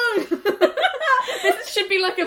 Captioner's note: laughs